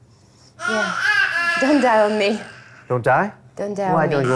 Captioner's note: baby crying